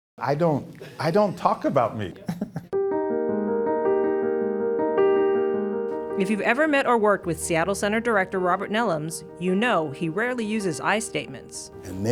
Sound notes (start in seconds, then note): 2.1 laughs; 2.9 piano music